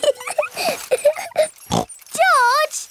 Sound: laughs and snorts

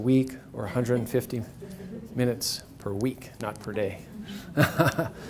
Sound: laughs

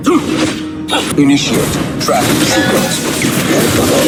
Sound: game Battle Sound Effects

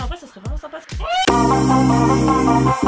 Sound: screams

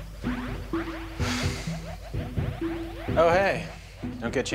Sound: gentle music; sighs

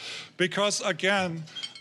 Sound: none

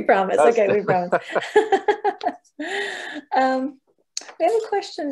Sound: both laughing

